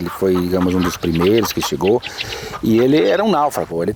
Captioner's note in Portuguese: galinhas cacarejando